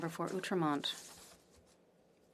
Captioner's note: speaking French